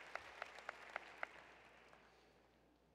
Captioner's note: applause